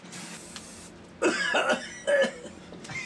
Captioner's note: coughing; laughing